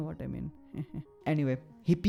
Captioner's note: giggles menacingly